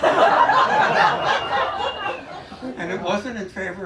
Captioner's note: laughter